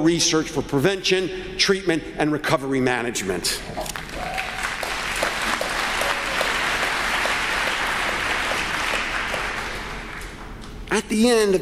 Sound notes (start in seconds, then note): 10.3 applause